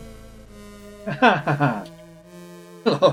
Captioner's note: laughs